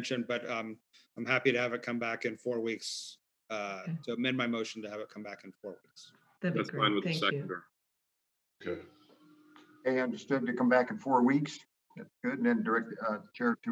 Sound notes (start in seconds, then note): 6.4 overlapping chatter